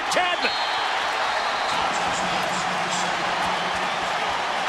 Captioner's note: crowd cheering